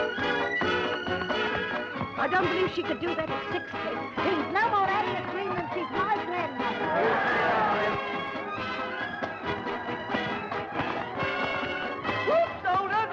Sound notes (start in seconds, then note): 6.6 crowd jeering; 10.2 upbeat music